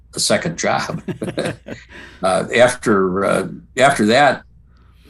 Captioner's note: both laughing